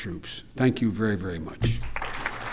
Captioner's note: applause